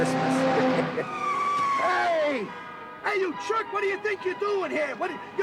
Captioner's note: laugh